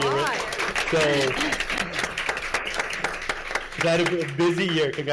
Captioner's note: everyone applauding